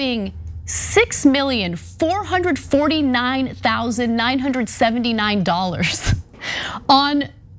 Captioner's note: laugh